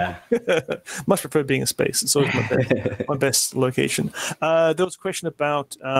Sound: laughs

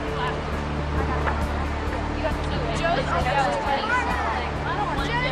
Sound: pedestrians chattering

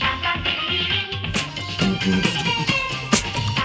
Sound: beatboxing along to commercial

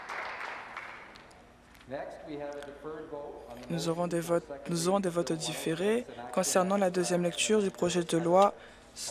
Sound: applause

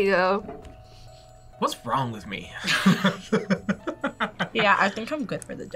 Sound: laughs

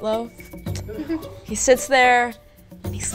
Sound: giggles

